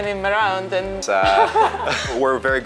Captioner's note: both laughing